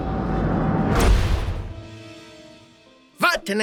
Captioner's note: whoosh